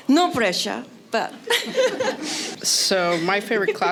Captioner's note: laughter